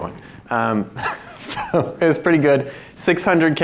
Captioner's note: laughs